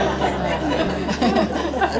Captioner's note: crowd chuckles